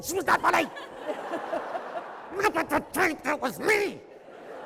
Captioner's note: laughter